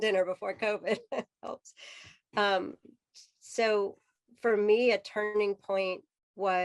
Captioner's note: laughter